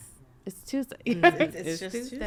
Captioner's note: laughing